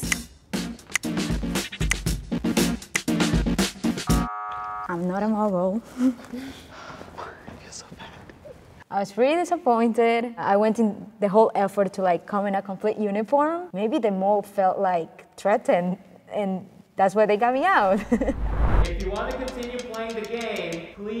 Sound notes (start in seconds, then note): 0.0 upbeat music continues; 4.2 buzzer wails; 6.5 chuckles; 18.4 laughs